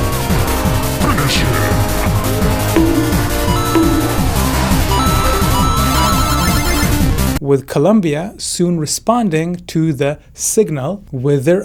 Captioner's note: boink